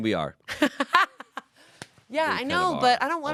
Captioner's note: laughs